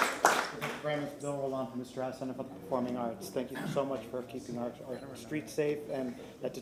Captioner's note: applause